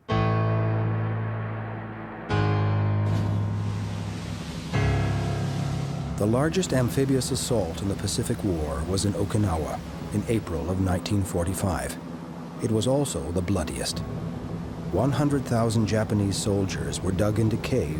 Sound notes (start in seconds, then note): 0.1 dramatic music; 3.2 water crashing